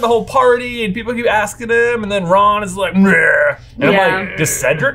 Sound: growls

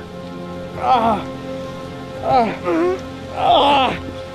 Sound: Walter groans

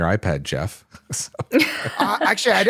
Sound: laughs

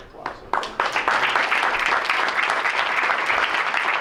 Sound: crowd applauds

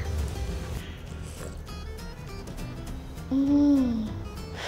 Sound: slurps

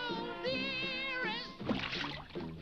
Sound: water splashes

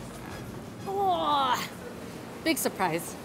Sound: strenuous grunting

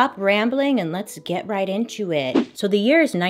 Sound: swoosh

